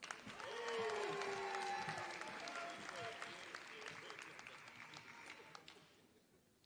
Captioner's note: applause